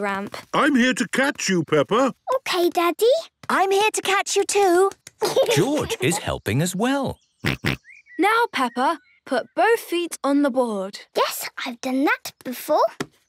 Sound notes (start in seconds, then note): 7.1 snorts